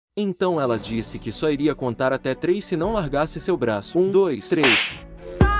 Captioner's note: slap